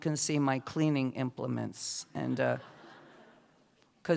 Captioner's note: laughter